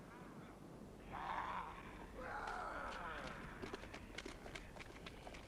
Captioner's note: raiders snarling